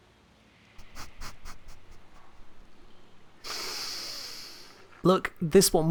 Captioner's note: sniffing laugh of defeat